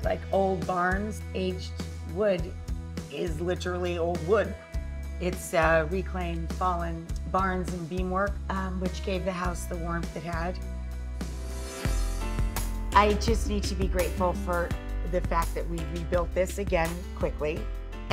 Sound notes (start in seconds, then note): 10.6 inspiring rock music; 11.5 swoosh